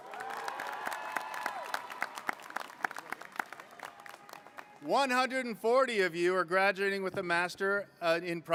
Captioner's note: applause